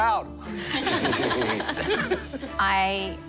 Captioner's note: laughter